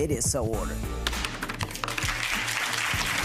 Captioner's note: spectators clapping; gavel pounding